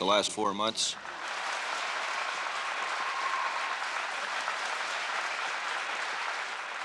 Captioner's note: audience applauds